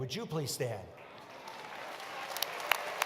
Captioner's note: applause